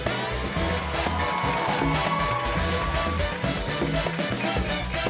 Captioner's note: cheering; upbeat music